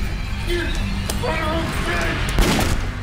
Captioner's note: cocks gun